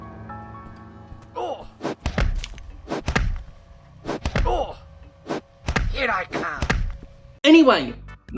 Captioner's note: oof sounds